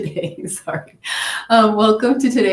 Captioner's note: chuckles